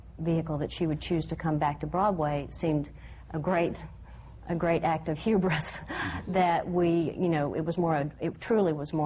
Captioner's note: laughs